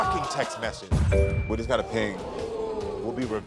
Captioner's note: phone pings; audience groans